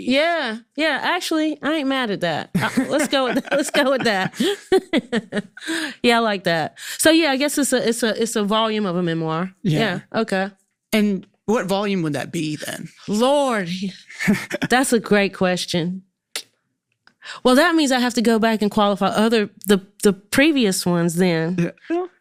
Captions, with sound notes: - Yeah, yeah. Actually, I ain't mad at that. Let's go with that. Let's go with that. [both laughing] Yeah, I like that. So, yeah, I guess it's a volume of a memoir. - Yeah. - Yeah, okay. - And what volume would that be then? - Lord! That's a great question. Well, that means I have to go back and qualify the previous ones then,